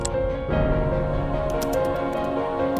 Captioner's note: intense music; keys clicking